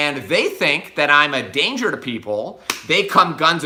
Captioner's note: hands slap